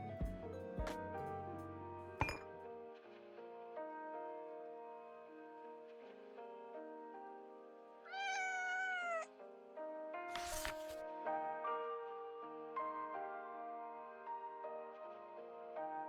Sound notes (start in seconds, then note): 8.0 cat meows; 10.2 soft music